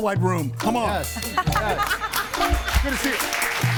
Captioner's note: everybody laughing; audience applauds